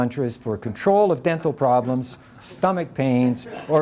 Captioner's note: audience chuckling